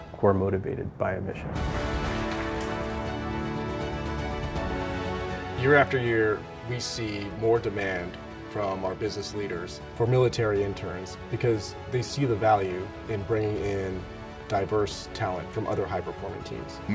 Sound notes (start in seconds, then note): 1.8 audience applauding; 1.9 orchestral music